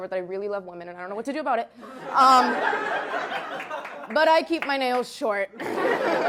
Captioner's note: Risas